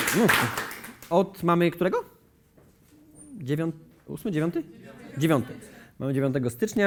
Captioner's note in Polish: oklaski; głosy z widowni